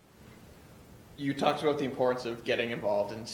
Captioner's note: voiceover